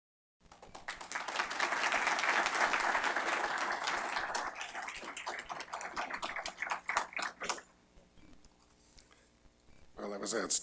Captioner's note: applause